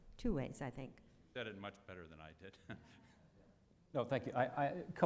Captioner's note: chuckles